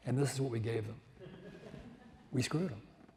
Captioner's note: audience laughs